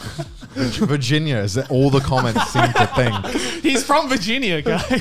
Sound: laughing

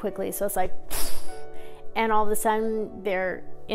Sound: whoosh sound

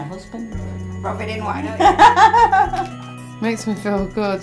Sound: laughs

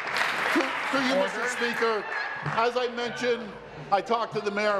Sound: applause

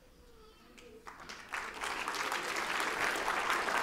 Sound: applause

